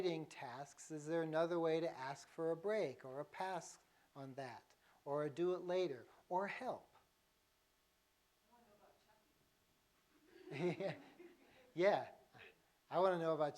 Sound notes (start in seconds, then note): 7.0 laughter